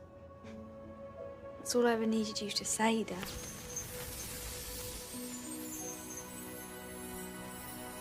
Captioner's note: magical buzzing sound